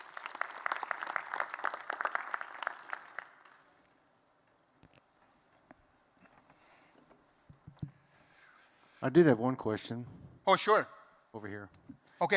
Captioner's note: applause